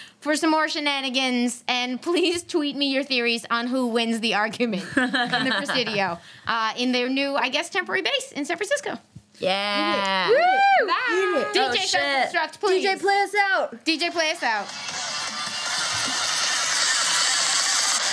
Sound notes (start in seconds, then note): 10.1 cheers; 14.6 loud techno music